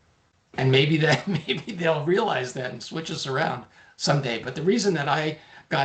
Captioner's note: laughing